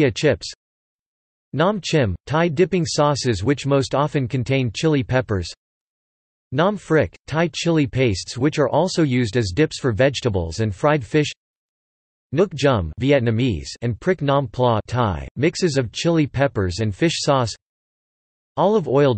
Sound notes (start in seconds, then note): 12.5 Vietnamese